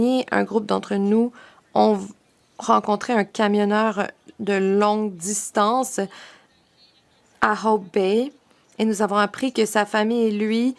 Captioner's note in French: voix de l'interprète